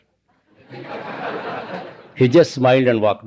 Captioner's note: laughter